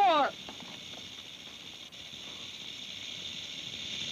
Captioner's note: snake rattles